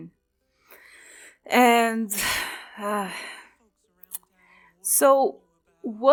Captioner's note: sigh